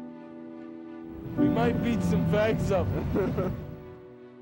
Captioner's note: laughs